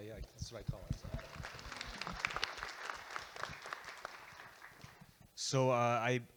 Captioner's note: audience Applauding